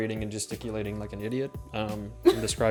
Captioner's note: chuckles